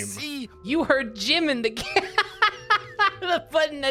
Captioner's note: speaking normally; laughs